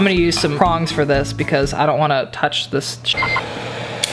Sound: beep

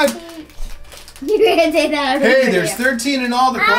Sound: laughter

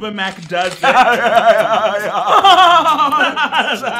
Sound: laughing

